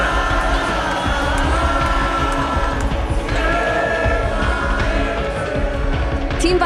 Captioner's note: crowd cheering, chanting